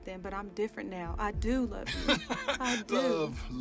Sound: laughing

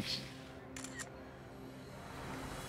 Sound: camera clicks

